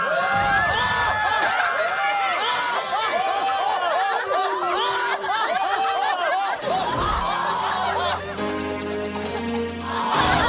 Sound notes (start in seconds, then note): 2.0 the screams never stops